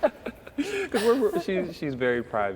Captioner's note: laughter